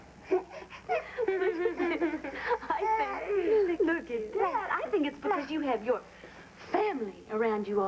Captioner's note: starr giggles